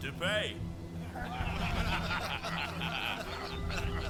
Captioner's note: all laughing